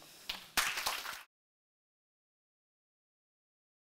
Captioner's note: applause